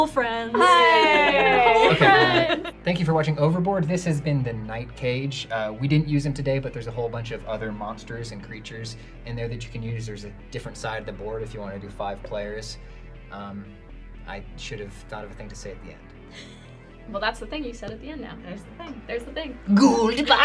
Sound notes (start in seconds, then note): 16.3 giggles